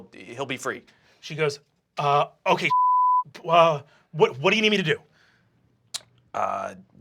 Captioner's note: beep